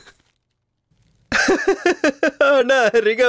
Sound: laughs

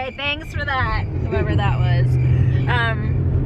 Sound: crickets continue

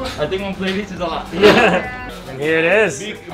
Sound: laughs

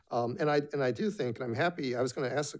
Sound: none

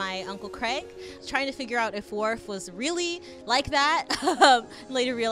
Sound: laughs

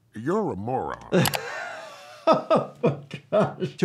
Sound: laughing

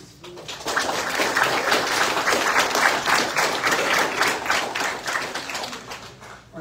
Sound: audience applauds

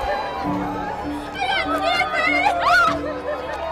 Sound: cheering

